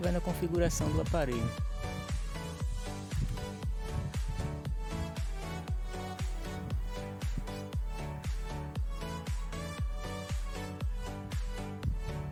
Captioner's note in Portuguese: vento soprando